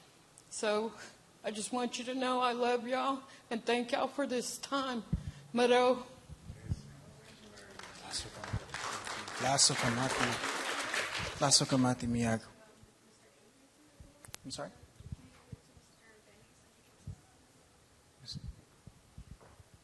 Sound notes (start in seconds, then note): 7.2 speaking in native language